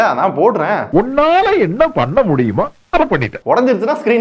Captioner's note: Tamil film dialogue